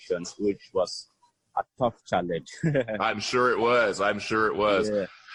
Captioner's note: laughter